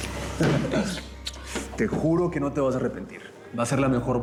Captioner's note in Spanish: risas y beso